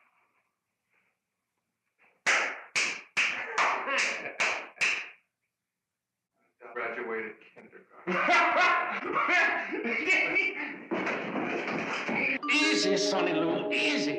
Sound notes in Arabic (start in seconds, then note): 2.7 تصفيق; 3.8 يضحك; 8.0 يضحك الشريف